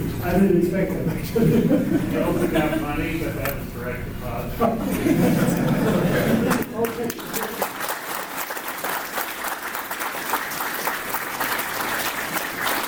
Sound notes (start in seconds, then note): 4.6 laughter; 8.2 applause